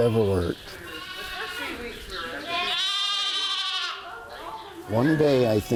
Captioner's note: lambs bleating